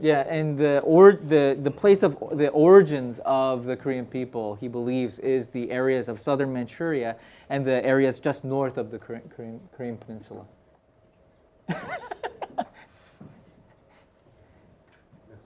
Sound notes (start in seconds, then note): 11.7 laughs